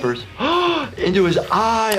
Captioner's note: gasps